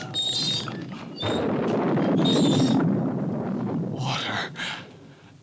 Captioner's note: thunder rumbles